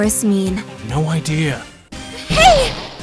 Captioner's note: whispering